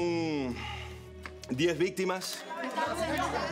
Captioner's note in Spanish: exhala; exhala; reporteros hablando al unísono